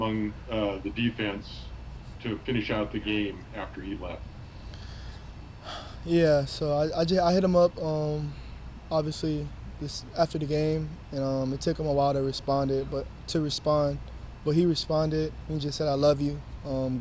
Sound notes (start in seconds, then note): 4.4 breathing heavily